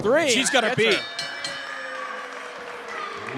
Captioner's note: bell rings